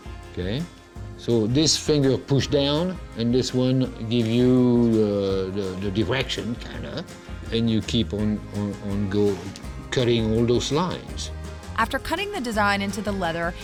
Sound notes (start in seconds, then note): none